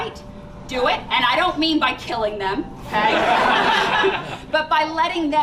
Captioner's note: laughter